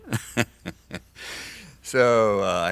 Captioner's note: laughs